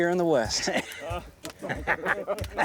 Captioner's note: laughs